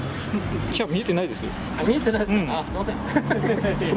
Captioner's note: laughs